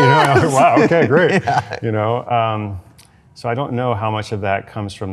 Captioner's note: laughs